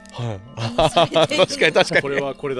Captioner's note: laughs